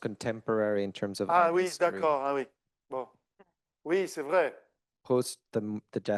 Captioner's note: speaking French